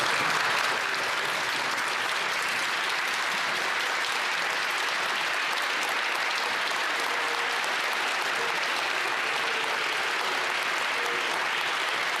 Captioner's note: some Applause